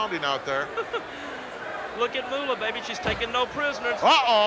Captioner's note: laughs